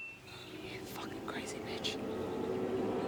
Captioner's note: whispers in disbelief